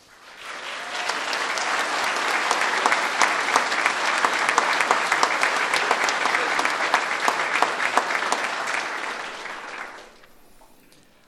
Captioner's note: applause